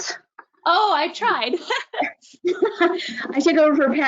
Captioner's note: laughing